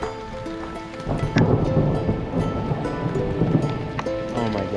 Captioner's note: thunder rumbling